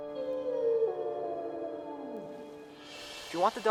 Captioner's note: wolf howling